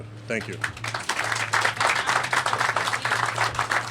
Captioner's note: applause